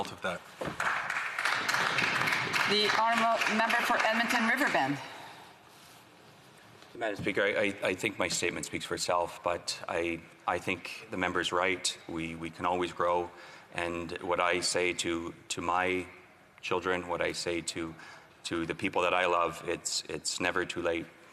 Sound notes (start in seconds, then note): 3.5 applause